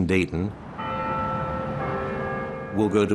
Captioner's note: bell chiming